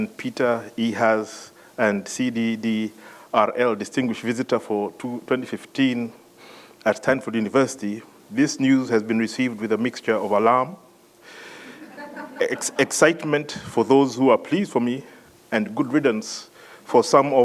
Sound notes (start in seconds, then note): 11.6 laugh